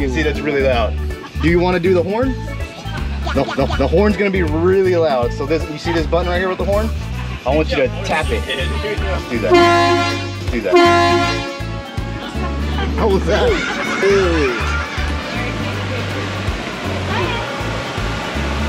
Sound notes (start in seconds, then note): 9.4 horn honking; 12.2 laughs